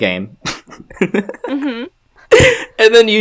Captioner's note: snickers